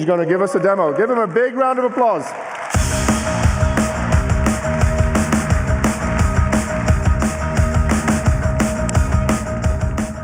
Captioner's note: applause